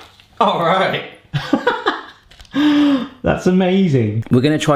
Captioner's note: laughs